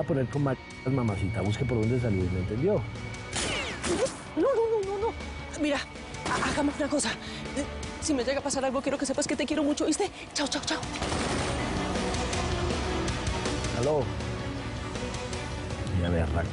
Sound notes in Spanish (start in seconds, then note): 3.3 Disparos